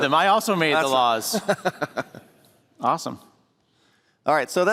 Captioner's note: laughter